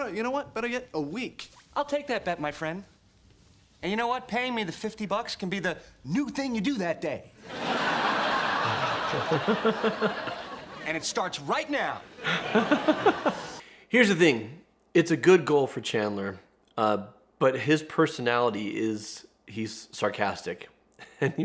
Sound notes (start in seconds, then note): 7.4 audience laughs; 8.5 laughs; 12.0 audience laughs; 12.2 laughs